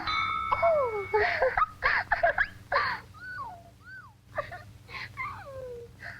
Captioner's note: gasps; laughs and squeals